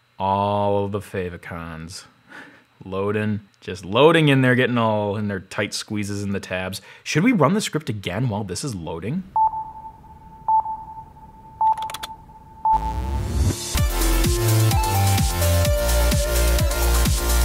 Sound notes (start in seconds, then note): 9.4 beeps; 12.8 upbeat techno music